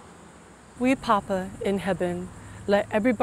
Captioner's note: in Gullah